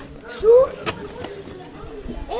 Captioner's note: voices in the background